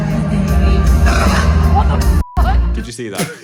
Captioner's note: burps